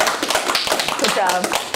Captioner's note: applause